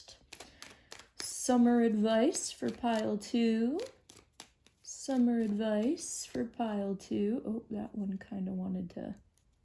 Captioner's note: shuffling